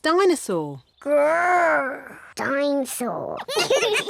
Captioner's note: roars; both laugh